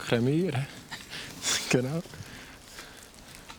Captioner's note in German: Lachend